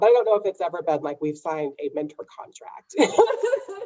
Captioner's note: laughs